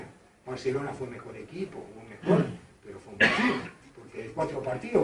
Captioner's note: cough, unintelligible